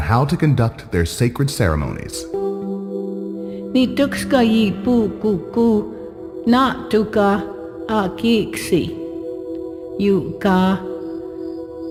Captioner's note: Blackfeet language spoken